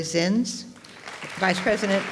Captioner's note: audience applauds